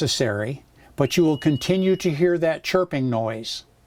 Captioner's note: chirp